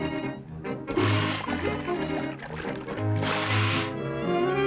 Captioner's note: Annabelle shushing; water splashing